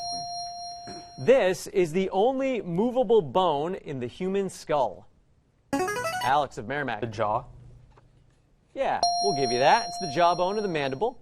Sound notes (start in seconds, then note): 5.1 player buzzer; 9.0 ding